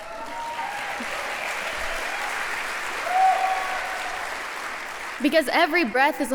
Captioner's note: applause